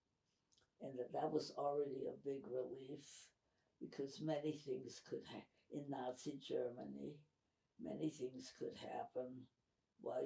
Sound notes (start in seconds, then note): none